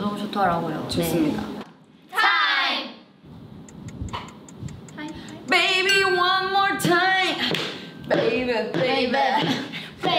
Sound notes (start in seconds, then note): 4.2 timer ticking; 5.7 bell rings